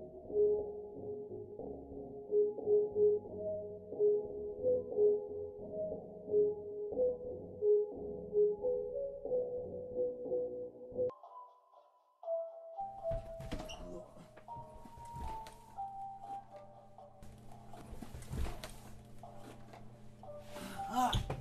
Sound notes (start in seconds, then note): 13.6 grunts; 17.0 sounds of forceful movement